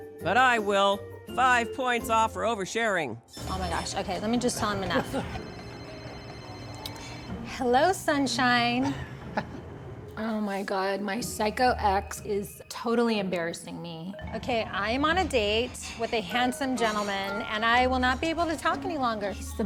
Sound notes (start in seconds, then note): 2.9 beeping; 5.6 ringing